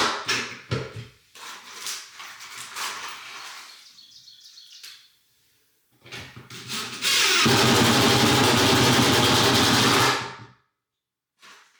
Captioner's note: drill whirring